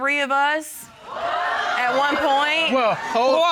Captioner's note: audience exclaiming